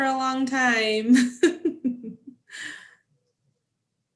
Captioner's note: laughs